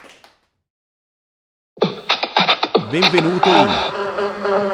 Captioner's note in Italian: Applauso